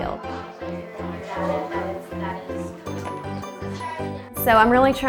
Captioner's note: children chattering